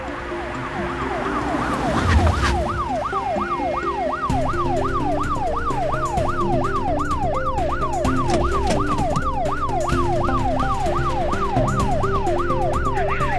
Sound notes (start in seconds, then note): 0.1 police sirens blaring; 3.1 dramatic music; 5.5 police sirens blaring